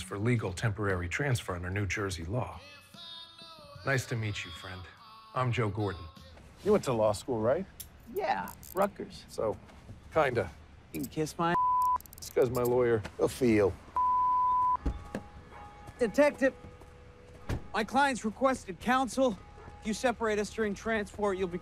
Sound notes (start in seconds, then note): 11.5 beeps; 13.3 church bell tolling; 13.9 beeps; 17.4 car door slams; 19.5 dog barking